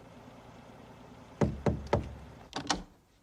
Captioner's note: knocking on door